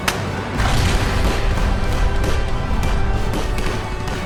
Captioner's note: explosion bangs